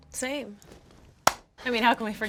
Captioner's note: high five hands slapping